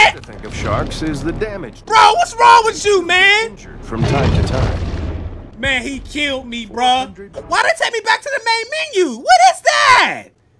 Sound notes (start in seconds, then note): 0.2 voiceover; 3.4 voiceover